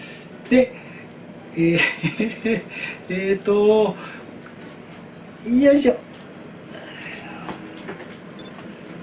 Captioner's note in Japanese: 笑い